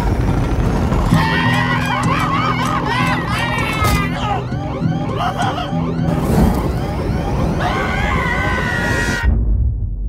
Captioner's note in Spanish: Gritos, ruidos de guitarra, caos total